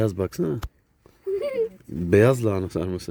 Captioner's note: laughs